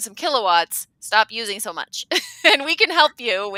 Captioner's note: laughing